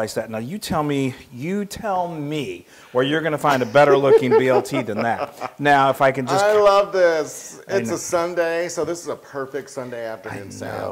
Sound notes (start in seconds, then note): 3.5 laugh